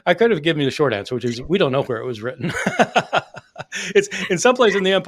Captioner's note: laughing